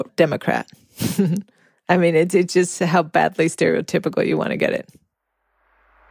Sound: Longoria chuckles

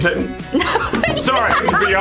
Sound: laughs loudly

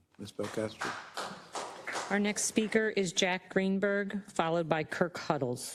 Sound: applause

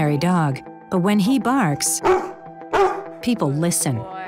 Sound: dog barks

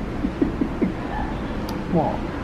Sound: laughs

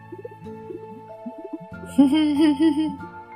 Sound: giggling

